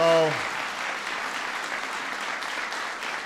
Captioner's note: applause